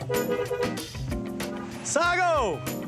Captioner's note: horn blows